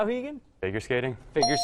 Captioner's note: ding